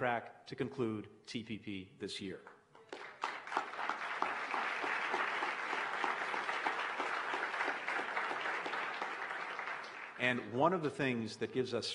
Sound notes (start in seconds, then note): 6.2 applause